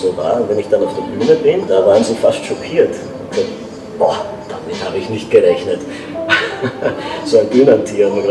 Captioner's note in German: lacht